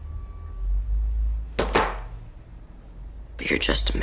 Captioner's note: gun hits table